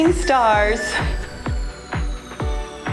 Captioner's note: timer beeps; cheerful music